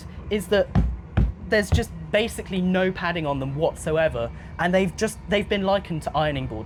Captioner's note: thumping